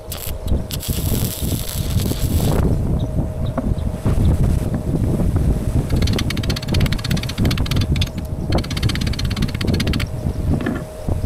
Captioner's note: wind blowing